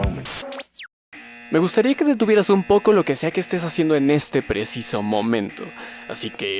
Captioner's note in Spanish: sonido de alarma muy molesto